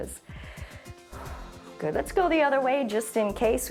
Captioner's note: inhales and exhales